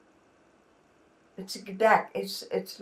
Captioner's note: non-english